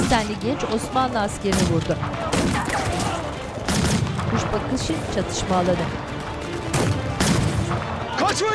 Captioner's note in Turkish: Silah sesleri; Müzik - Gerilim; Silah sesleri